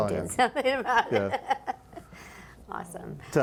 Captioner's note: laughing